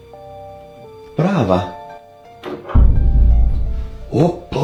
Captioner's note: foreign Language